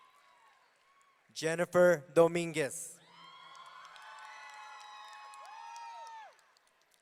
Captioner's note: audience cheering